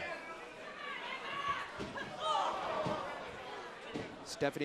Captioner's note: crowd cheering